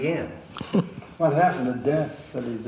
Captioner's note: laughs